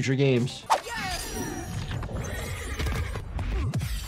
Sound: fighter groans

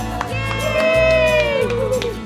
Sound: cheering and applause

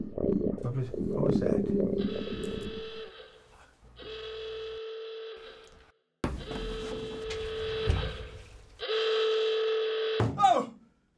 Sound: siren

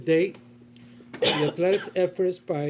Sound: coughing

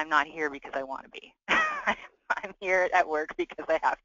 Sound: laughing

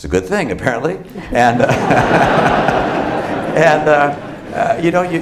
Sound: laughter

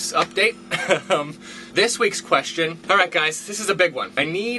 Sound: laughs

